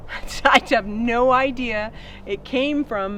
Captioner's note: laughs